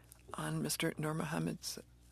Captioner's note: speaking in French